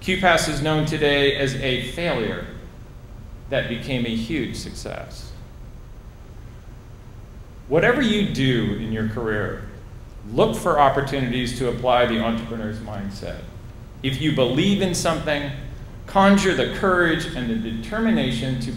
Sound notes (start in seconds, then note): none